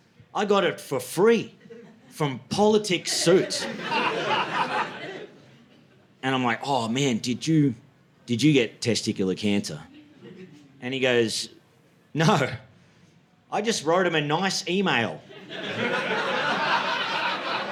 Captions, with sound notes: I got it for free from politics suits. (audience laughing) And I'm like, oh man, did you get testicular cancer? And he goes, no, I just wrote him a nice email. (audience laughing)